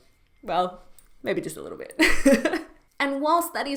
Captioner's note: she laughs